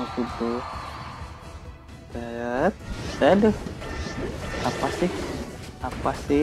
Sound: applause

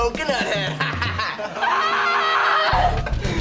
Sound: laughing; screaming

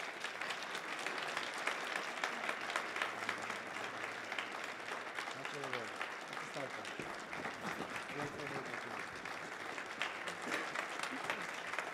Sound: applause

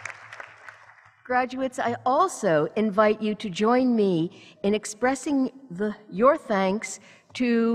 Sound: applause

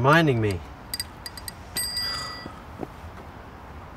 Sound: bell rings

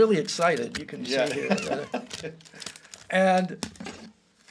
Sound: laughs

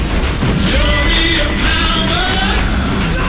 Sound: crowd cheering

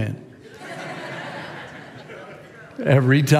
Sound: congregation laughs

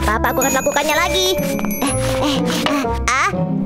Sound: Wilk panting

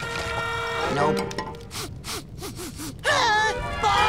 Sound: sniffing

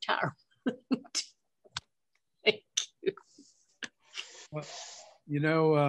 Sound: laughs

